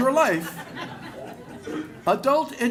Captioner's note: laughter